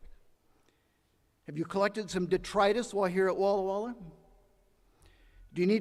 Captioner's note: none